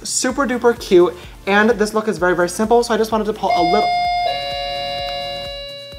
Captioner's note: doorbell rings